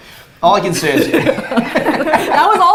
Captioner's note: both laughs